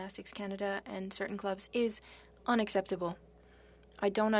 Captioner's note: speaking French